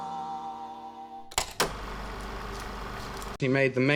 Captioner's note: film reel spinning